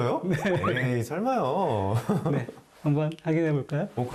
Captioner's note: hahahahaha